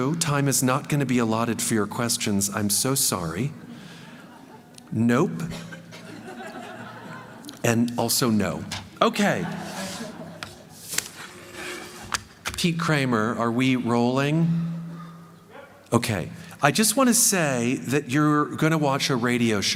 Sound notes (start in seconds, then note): 5.4 laughter